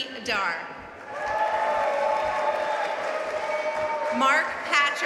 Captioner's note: audience cheering and applauding